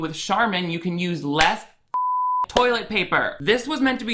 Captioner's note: beep